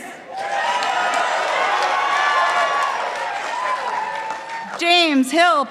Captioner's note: participants applauding